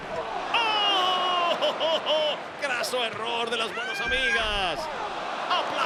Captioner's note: laugh